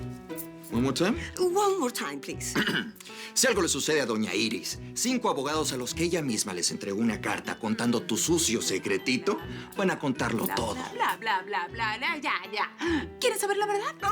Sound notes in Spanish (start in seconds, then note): 2.5 Él carraspea